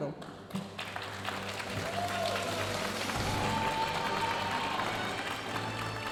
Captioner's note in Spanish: aplausos y vítores de la audiencia